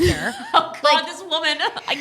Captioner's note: laughing